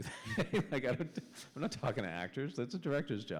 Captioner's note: chuckle